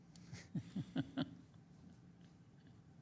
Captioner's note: laughing